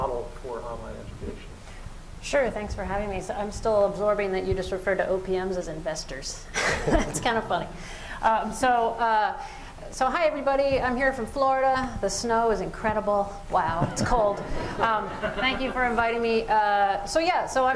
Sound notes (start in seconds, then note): 6.6 laughs; 13.8 laughter